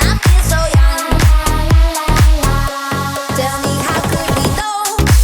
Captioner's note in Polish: Aplauz